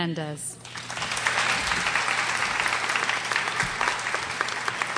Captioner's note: crowd applauds